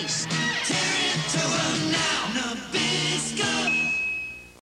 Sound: chime

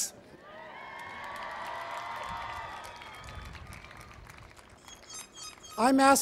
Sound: cheering and Applause

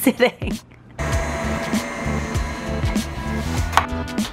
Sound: mixer whirring

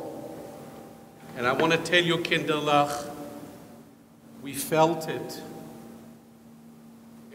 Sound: speaks foreign language

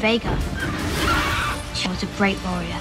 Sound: dragon screeching

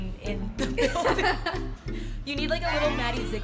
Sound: laughs

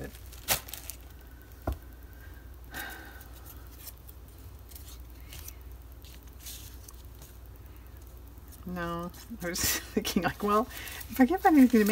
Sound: laughs

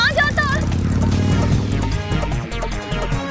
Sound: engine roaring

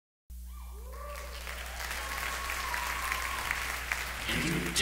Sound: audience claps

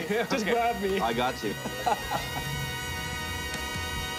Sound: laughter

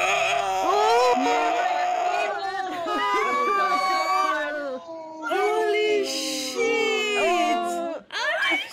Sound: chaos, screeching, collectively losing minds

